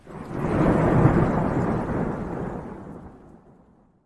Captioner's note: thunder rumbles